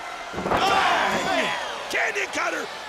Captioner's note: crowd cheering